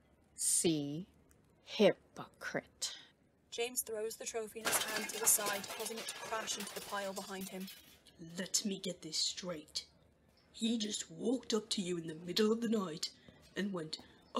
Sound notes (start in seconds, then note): 4.6 clattering